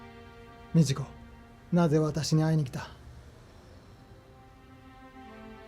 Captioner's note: speaking foreign language